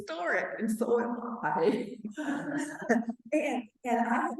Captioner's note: laughing